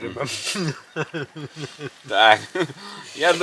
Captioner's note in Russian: смех